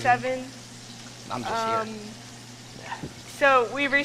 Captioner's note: pan sizzles